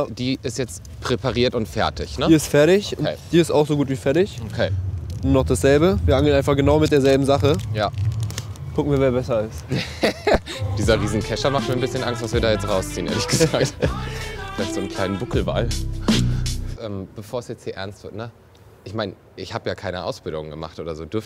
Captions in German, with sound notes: Die ist jetzt präpariert und fertig. - Die ist fertig. Die ist auch so gut wie fertig. - Okay. Noch dasselbe. Wir angeln genau mit derselben Sache. - Ja. Gucken wir, wer besser ist. (Lachen) Dieser Riesenkescher macht mir etwas Angst, was wir da jetzt rausziehen. Vielleicht einen kleinen Buckelwal. Ähm, bevor's jetzt hier ernst wird, ich mein, ich hab ja keine Ausbildung gemacht.